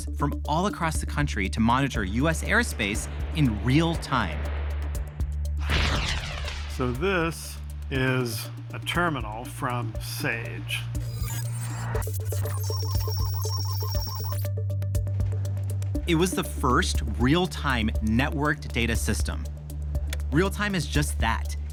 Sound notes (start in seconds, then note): 5.6 rocket blasting off; 9.8 beeping, static